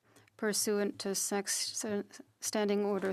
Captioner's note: speaking French